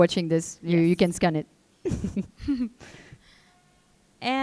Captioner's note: chuckling